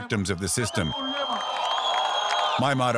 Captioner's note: cheering, applause